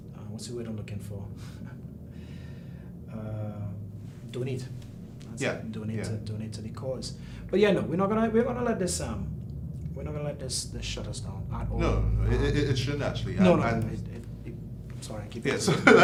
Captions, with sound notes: What's the word I'm looking for? (chuckles) Donate, yeah, donate to the cause. But yeah, no, we're not gonna let this shut us down at all. - No, it shouldn't actually. - I'm sorry, I keep interrupting you.